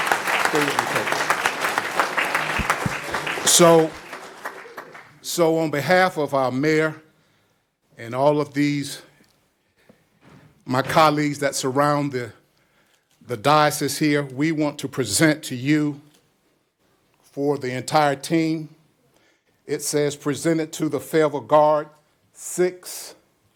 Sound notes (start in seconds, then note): 3.4 applause